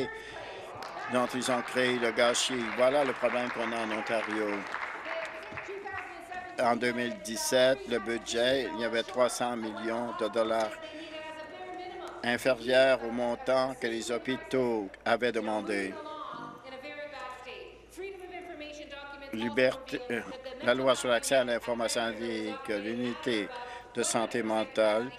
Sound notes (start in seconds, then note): 4.2 applause